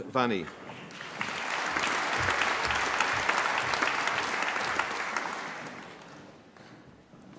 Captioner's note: applause